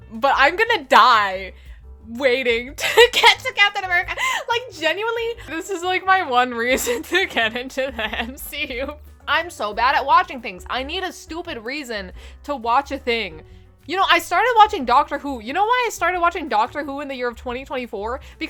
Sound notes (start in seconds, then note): 4.2 inhale